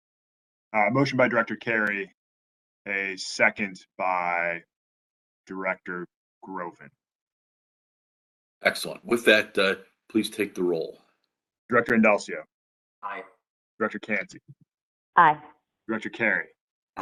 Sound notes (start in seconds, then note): 6.7 A pause